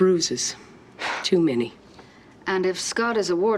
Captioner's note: scoffs